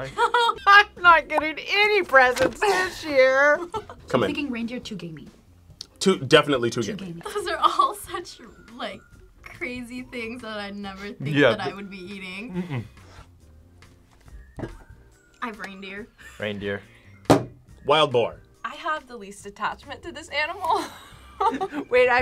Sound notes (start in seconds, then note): 0.0 laughs; 3.3 laughs; 20.7 laughs